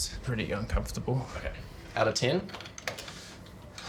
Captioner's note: keys tap